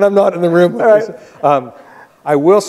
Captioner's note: both laughing